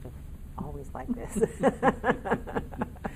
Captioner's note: laughing in unison